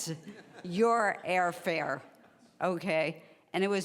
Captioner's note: laughing